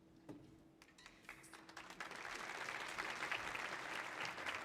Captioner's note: audience applauding